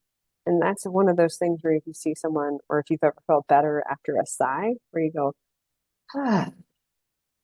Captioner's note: exaggerated sigh/exhale